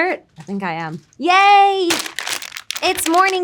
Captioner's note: packaging rustling